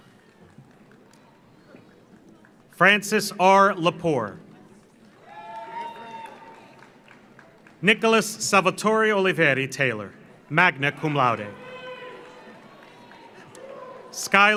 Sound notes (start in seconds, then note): 0.0 audience applauds; 5.0 audience applauds; 5.2 audience cheers; 11.0 audience cheers; 11.6 audience applauds